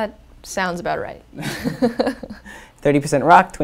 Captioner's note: laugh